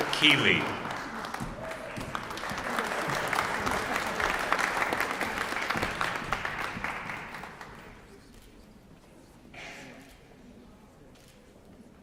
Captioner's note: applause